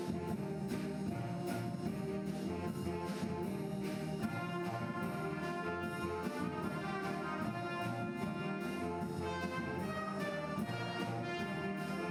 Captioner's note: applause